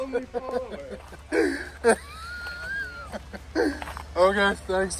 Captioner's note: laughing